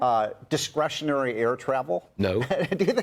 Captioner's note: laughter